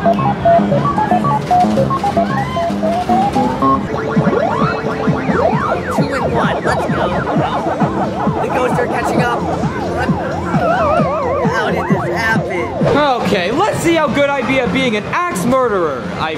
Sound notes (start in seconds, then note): 0.2 upbeat music; 4.0 game beeping; 10.8 Pac-Man whirring